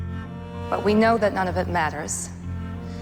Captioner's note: voiceover